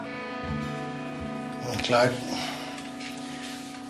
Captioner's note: exhales softly